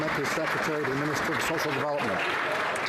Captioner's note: some Applause